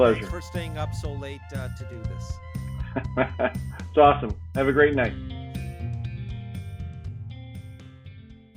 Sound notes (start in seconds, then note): 2.6 laughing